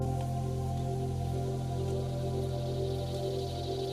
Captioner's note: birdsong